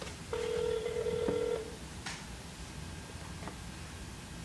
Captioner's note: ringing phone